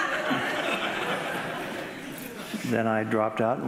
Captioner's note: audience laughing